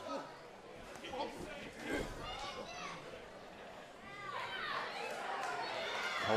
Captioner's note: crowd chatter